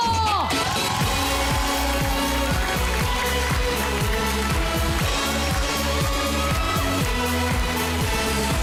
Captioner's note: audience cheering, clapping; theme music playing